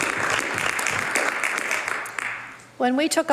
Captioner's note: some Applause